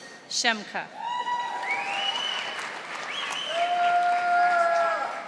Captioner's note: audience applauding